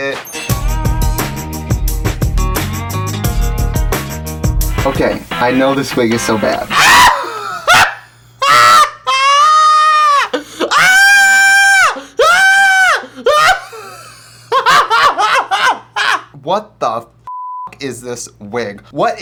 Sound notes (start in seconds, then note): 0.4 intro music; 8.4 screaming and laughing